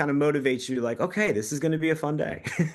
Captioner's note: laughs